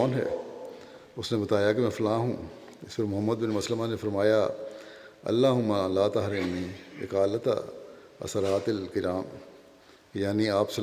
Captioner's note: Arabic